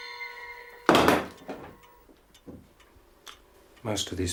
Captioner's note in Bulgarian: PHONE CLATTERS до пода